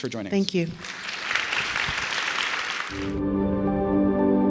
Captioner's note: audience applauds; bright music